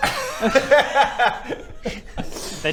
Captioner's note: disturbed giggles